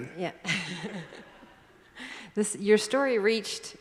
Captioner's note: laughs